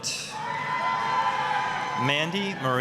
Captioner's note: applause, cheering